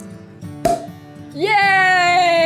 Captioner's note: bottle pops